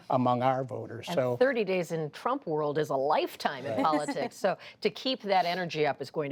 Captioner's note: laughter